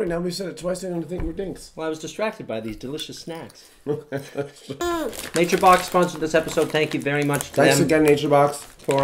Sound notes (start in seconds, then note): 3.8 chuckles